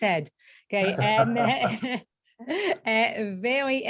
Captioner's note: laughs